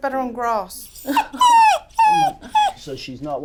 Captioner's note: Ruby whining